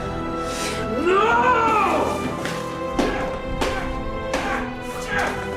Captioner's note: breathing heavily; throwing and smashing things